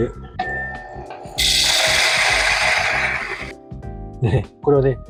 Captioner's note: sound of grinding coffee